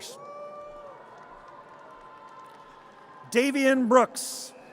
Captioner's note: audience cheers